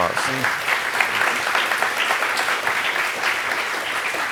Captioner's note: audience applauds